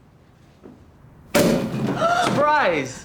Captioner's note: bottle pops open; gasps